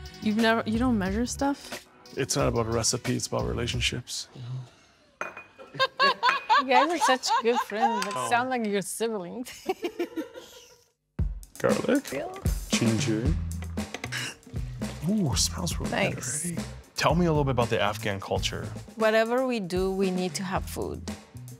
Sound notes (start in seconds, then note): 5.7 people laughing; 11.2 upbeat percussive music